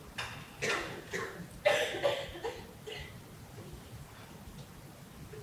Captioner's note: audience member coughing